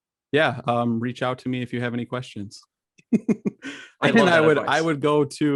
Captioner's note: laughs